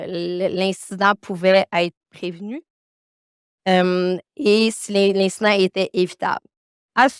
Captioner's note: continues speaking French